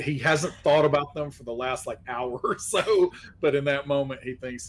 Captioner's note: laughing